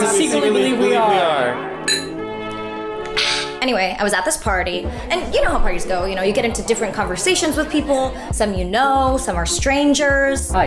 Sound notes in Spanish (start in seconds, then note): 1.9 Clink